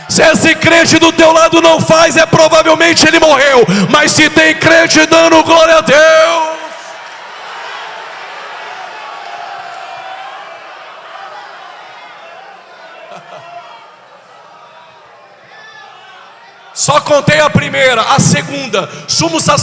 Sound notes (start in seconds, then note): 8.4 applause